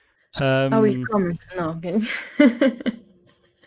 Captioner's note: laughs